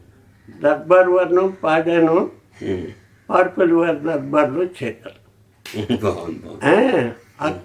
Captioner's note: laughing